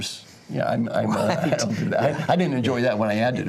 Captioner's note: laugh